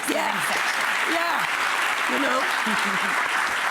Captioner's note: audience clapping